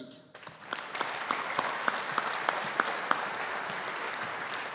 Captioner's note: audience applauding